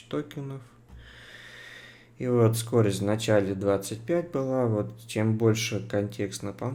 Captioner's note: sighs heavily